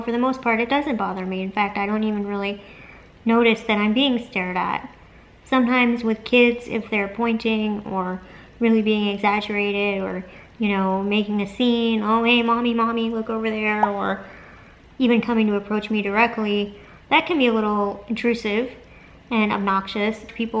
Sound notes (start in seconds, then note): 13.7 popping noise